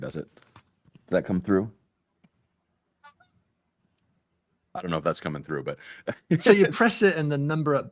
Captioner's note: squeaky bike horn